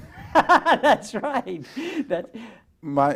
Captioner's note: laughs